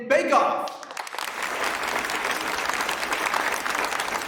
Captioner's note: audience clapping